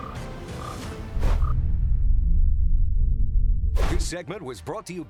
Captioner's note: logo swoosh